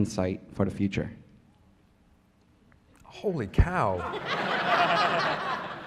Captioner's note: laughter